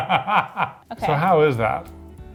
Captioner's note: laughing